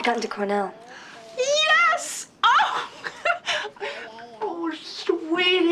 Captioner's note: laughs